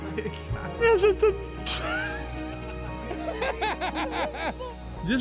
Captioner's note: laughs